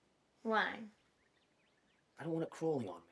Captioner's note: birds chirping